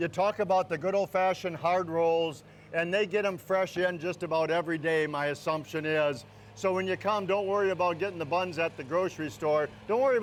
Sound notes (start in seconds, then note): none